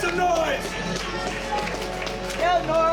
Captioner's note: cheers and applause